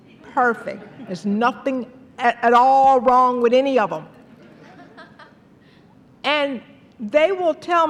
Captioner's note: laughter; laughter